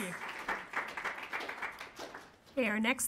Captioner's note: applauding